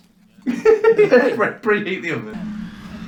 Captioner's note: laughs